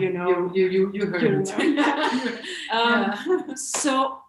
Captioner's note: both laughs